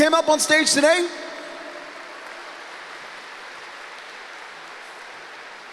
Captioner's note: applause